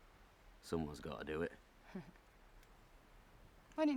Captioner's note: Ethne laughs